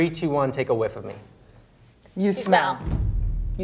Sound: inhales deeply

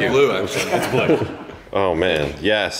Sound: laughter

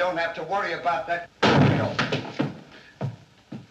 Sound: thud!

